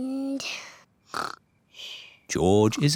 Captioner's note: snores